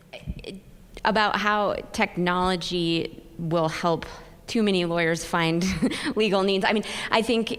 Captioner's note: chuckle